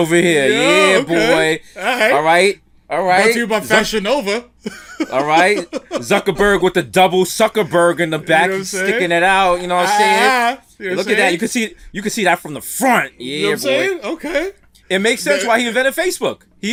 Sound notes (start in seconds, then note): 4.6 laughs